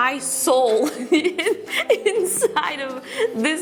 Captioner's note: laughs